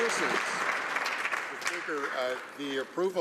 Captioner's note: some Applause